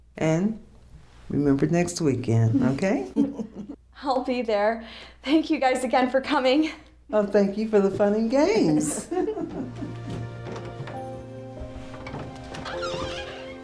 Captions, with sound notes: And remember next weekend, OK? I'll be there. Thank you guys again for coming. Oh, thank you for the fun and games. [laughter] [dramatic music]